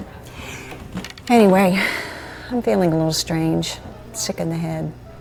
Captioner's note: she sighs